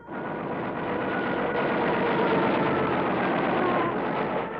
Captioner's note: loud gunfire; plane engines roaring